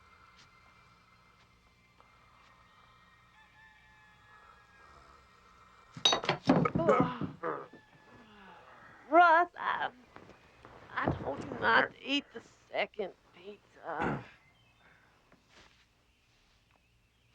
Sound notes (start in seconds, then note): 6.0 glass clattering; 6.8 man groaning